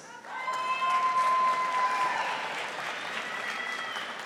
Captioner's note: audience applauding